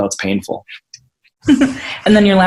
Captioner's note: laughs